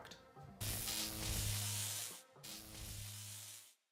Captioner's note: electric Buzz